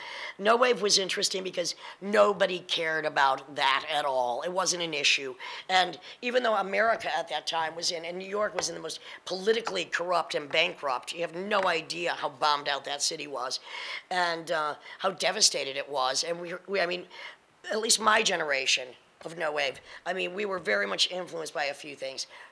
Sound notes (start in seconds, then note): none